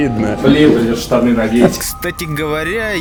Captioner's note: sarcasm